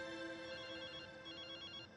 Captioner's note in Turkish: telefon çaliyor